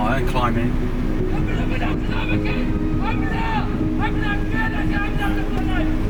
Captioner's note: men shouting